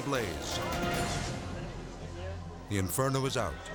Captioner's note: friends chattering